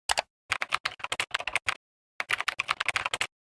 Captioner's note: keyboard tapping